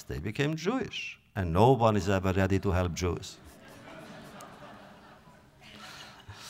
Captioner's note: audience laughter